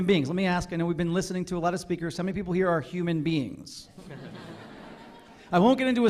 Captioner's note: laughter